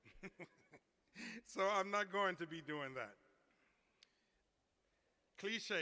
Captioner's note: laughter